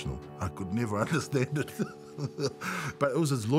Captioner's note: laughs